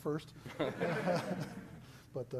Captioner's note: laughter